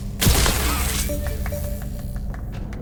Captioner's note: crash; clapping